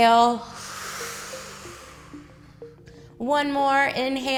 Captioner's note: exhales